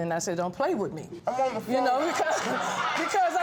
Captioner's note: chuckling